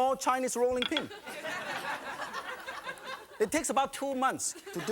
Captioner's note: audience laughing